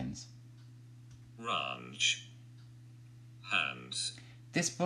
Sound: computer Talking

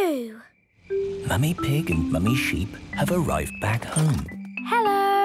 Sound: whispering

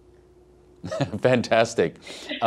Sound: laughs

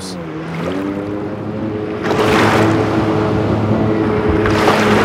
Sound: loud engine whirring; water lapping

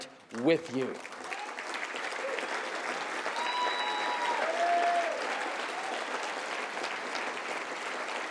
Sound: applause

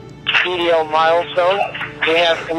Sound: voice on radio

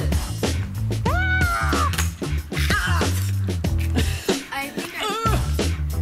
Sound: screams

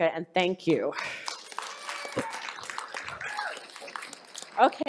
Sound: audience applause

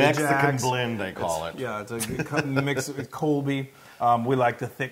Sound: laugh

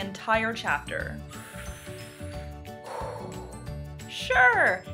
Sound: deep inhale and exhale

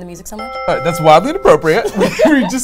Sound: bell dings

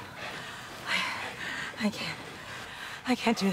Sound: breathing heavily

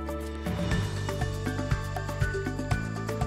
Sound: none

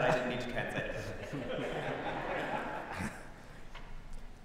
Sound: laughter

